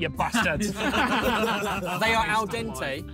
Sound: all laughing

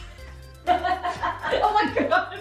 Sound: laughing

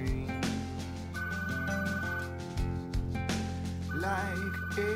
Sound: phone rings

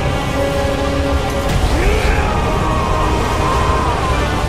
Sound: ganondorf screams

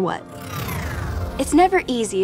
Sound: scene whooshes

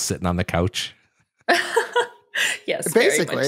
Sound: laughs

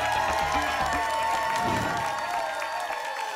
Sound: whoosh; applause and cheering cont

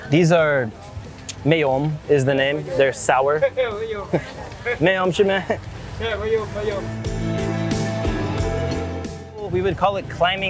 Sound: vendors laughing

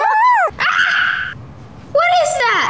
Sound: children laughing and making silly sounds; child yelling

